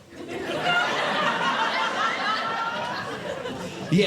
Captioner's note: audience Laughing